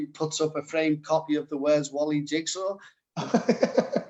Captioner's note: laughter